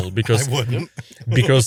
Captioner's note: laughs